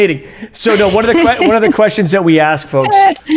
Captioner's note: laughs